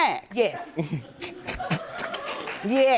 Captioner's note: snickering